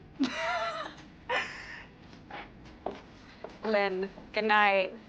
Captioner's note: Lynn laughs